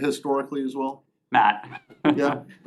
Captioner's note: laughter